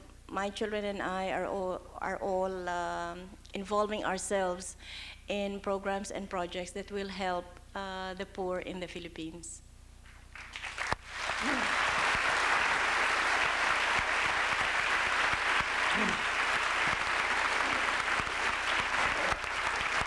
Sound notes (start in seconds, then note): 10.3 applause